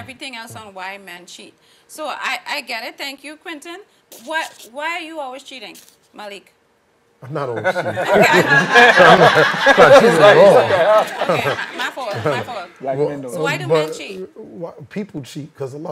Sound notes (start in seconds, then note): 7.6 audience laughing